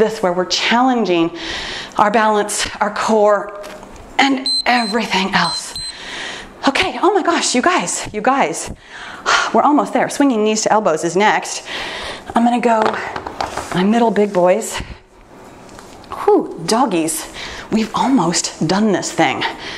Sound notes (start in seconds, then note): 4.4 timer beeps